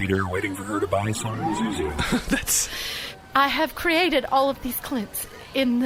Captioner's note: tearful